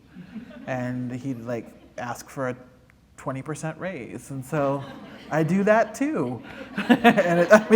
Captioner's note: laughter